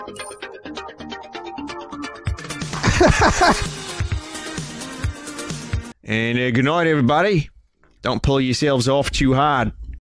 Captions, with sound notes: [Laughs] [Australian accent] And a good night, everybody! don't pull yourselves off too hard.